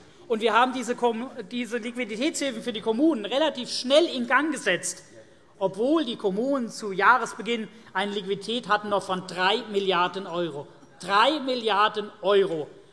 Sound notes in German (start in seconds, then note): none